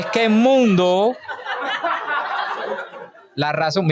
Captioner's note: laughs